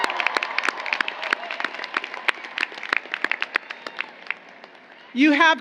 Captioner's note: applause